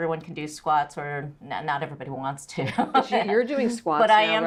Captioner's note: laughs